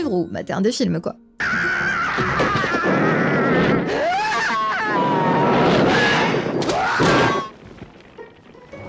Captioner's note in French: hurlements